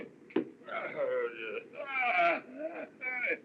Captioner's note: groaning